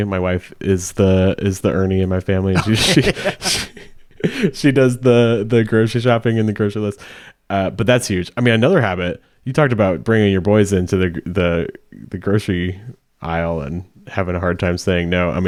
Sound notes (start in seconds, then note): 2.5 laughing; 2.5 laughs